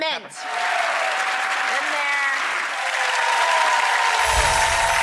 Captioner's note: roaring cheering